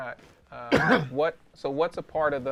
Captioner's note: cough